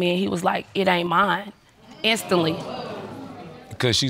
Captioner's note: scoffs